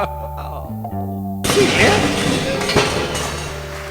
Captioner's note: crash